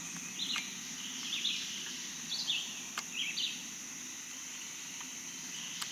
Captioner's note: birds and bugs chirping